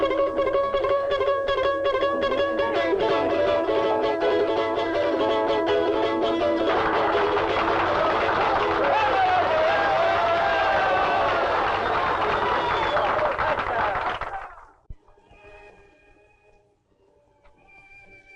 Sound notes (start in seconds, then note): 6.6 customers applaud and cheer; 15.0 soft dramatic music